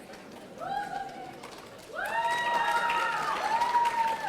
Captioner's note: audience cheering